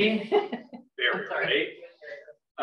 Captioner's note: laughs